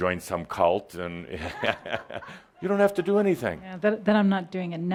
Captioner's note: Adamus chuckles